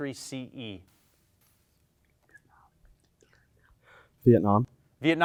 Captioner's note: team whispers